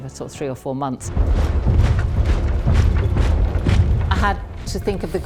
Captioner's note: soldiers march